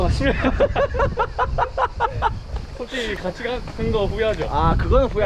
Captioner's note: laughing